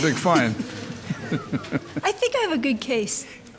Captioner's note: laughs